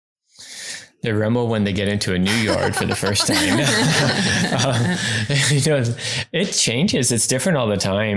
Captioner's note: laughing